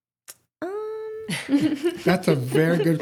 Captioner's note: laughter